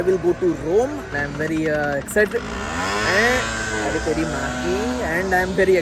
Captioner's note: bike engine revs